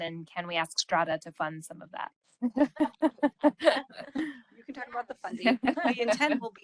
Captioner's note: laughing